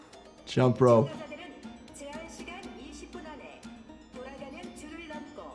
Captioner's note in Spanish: hablando idioma extranjero